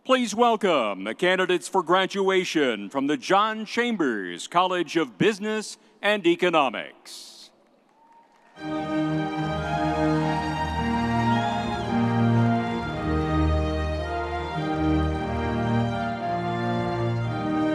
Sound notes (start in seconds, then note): 7.9 audience cheering; 8.5 stately music